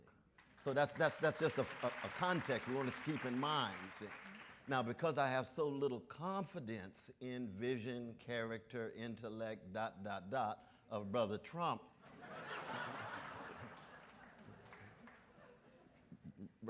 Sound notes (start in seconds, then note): 0.4 audience applauds; 12.1 audience laughs